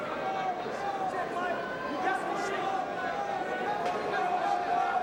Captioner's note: crowd vocalizing